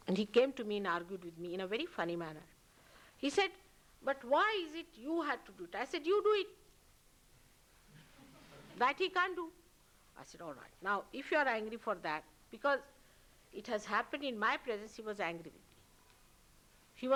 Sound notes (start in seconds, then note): 8.0 laughter